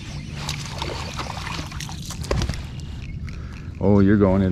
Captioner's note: water splashes